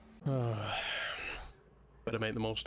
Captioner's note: sigh